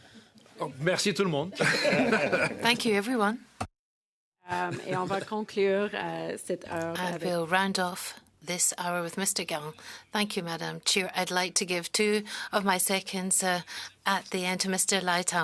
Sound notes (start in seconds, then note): 4.5 laughter; 6.7 speaking French